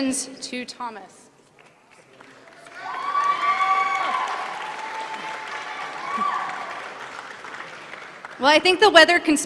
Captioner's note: applause